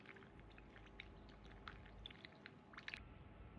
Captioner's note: sipping coffee